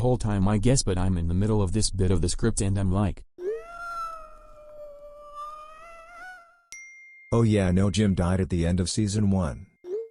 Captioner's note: tortured meowl